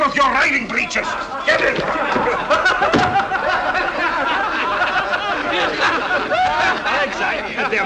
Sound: loud laughter

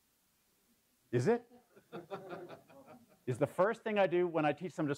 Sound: laugh

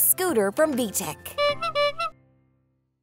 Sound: horn honking

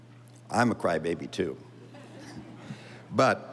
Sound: audience laughing

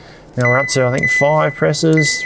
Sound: fridge beeps

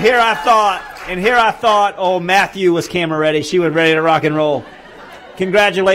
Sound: cheering

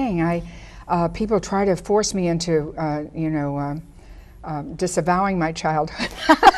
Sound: laughs

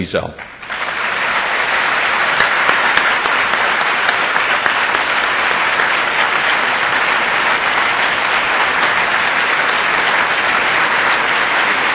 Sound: audience applause

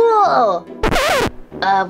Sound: record scratching

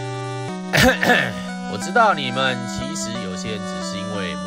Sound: cough cough

